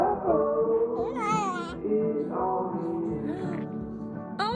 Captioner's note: babbles